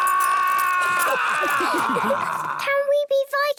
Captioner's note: all laughing